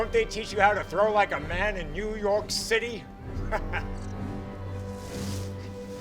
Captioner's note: laughs